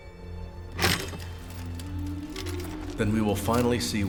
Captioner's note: sword clangs